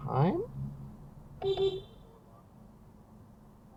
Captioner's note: beepbeep